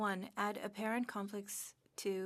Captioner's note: speaking French